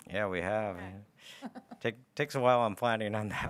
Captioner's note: laughs